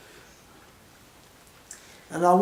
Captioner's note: pause